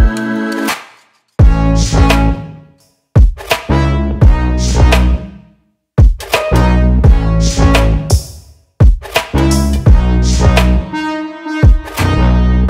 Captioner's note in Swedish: Applåder